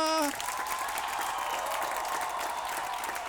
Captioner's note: cheering